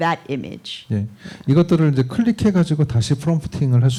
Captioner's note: speaking korean